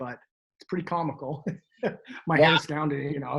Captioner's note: chuckles